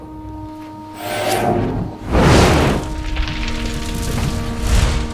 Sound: magical whirring

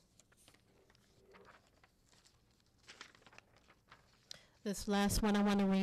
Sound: none

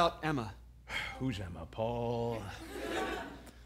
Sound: sighs

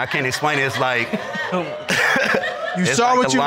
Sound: all laugh

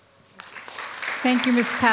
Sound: applause

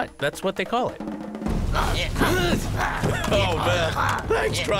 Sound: men grunting

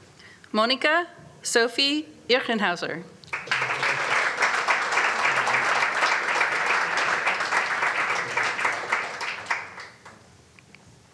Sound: applause

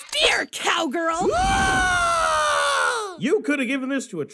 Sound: screams of the hill

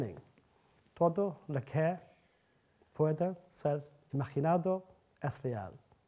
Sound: speaking in Spanish

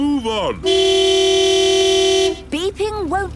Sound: honking

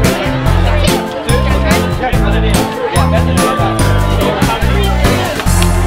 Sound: indistinct chatter

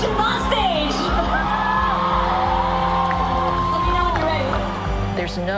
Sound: cheering and applause

